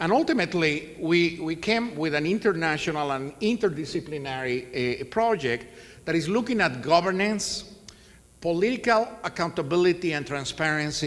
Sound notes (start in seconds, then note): none